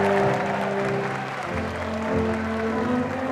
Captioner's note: applause